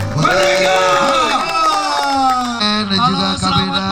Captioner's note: applause